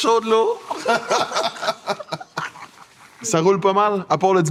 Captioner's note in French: Rires